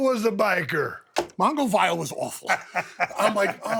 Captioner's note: Stone Cold laughs